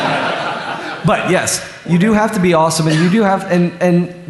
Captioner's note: laughter